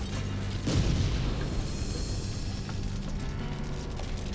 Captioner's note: fire explodes